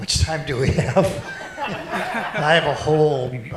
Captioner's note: laughter